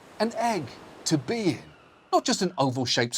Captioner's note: soothing ocean sounds